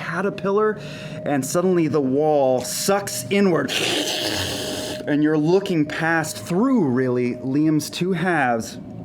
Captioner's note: sucking noise